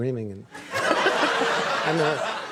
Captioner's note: audience laughing